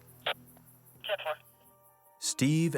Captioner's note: static buzzing